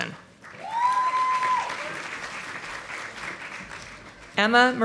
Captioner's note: audience applauding